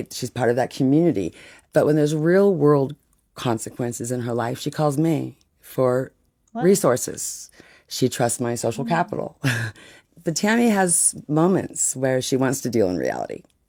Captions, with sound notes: She's part of that community. But when there's real-world consequences in her life, she calls me for resources. Wow. She trusts my social capital. [chuckles] But Tammy has moments where she wants to deal in reality.